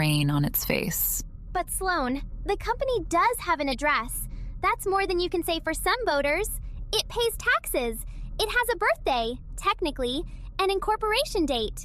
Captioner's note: breath